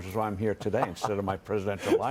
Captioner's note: laughter